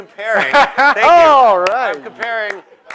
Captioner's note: laughter